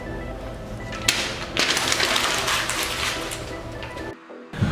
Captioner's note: paper crumbles